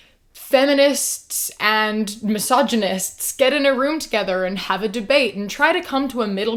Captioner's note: none